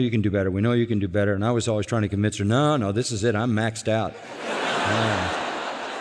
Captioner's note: laughter